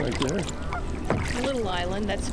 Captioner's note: water splashing